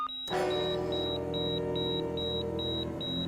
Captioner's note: heart monitor beeping